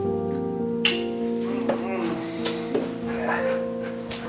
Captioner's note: lips smacking